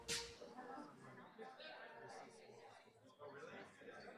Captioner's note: chatter